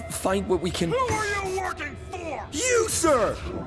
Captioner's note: yelling and bursting energy